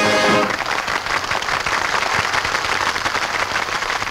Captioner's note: patrons clap